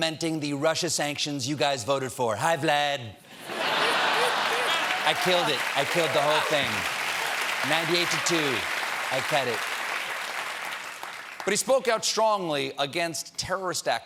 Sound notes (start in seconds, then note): 3.3 laughter